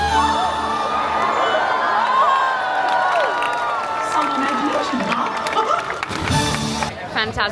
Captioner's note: cheering